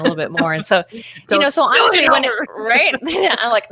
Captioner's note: laughs